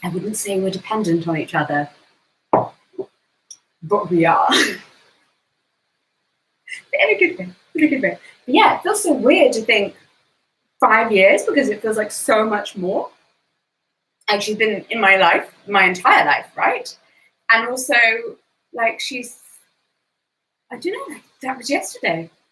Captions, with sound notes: I wouldn't say we're dependent on each other but we are (laughs) but in a good way, in a good way. Yeah, it feels so weird to think five years because it feels like so much more. Like she's been in my life my entire life, right? And also, she's, I don't know, like that was yesterday.